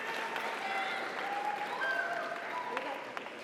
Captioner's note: audience cheers; audience applauds